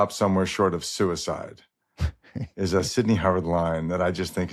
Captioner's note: chuckles